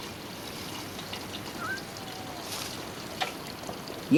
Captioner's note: cat meows